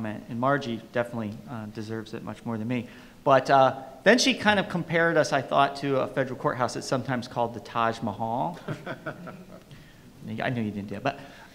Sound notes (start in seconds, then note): 8.6 panelists laugh